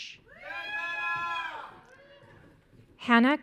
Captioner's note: audience cheering